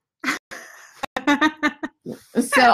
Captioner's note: laughing